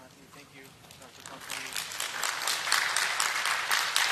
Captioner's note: applause